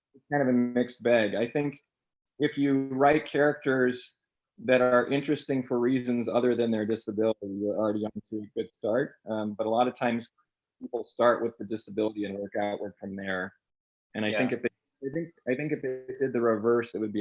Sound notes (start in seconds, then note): none